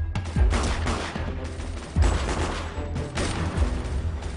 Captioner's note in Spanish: Disparos